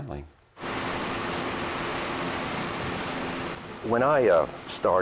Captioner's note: engine rumbling; water splashing